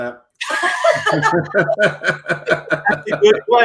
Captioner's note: all laugh